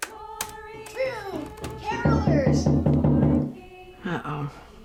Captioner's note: knocking on door